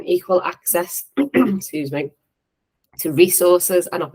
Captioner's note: cough